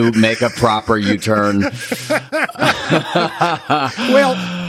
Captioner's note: both laughing